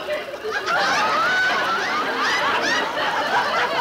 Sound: audience laughing

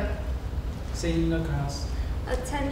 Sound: talking

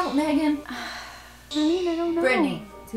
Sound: sighs

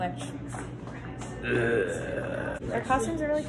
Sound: groans

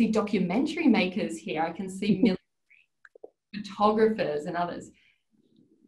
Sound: audio distorts

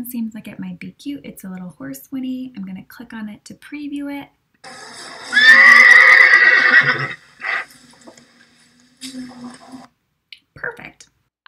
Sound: audio- Horse winnies

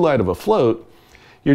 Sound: none

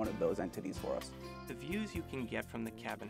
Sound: voiceover

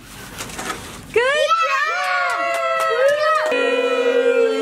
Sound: cheers

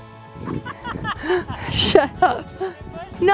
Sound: laughing

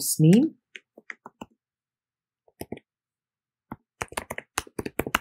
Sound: keyboard clicking

